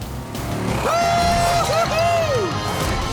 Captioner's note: cheering